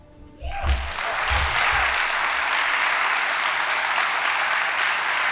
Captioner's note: audience applauding